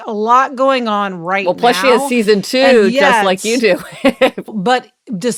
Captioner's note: laughs